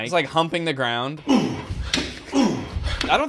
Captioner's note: grunts of effort